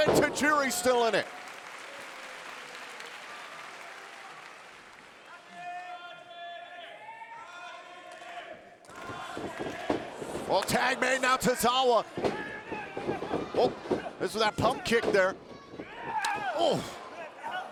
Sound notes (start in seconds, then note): 1.8 audience applauding; 6.4 audience shouting